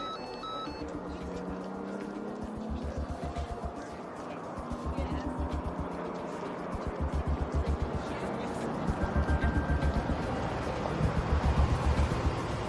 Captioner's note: text alert tone plays